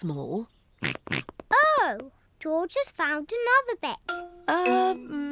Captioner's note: snorts